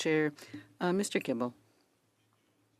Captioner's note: speaking in French